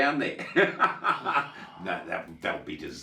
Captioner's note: laughs